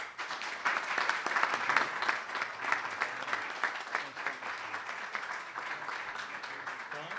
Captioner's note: applause